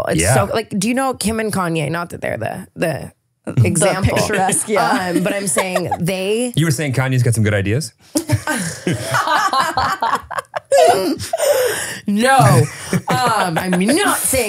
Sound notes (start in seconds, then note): 8.2 all laughing